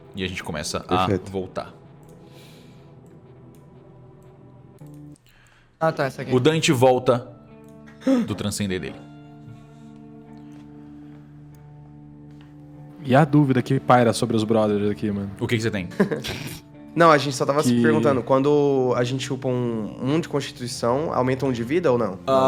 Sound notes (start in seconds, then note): 15.8 laughter